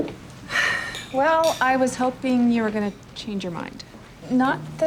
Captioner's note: sighs